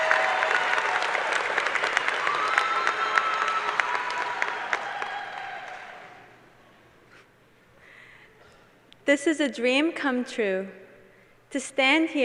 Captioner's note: cheers and applause